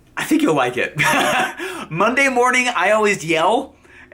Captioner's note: laughs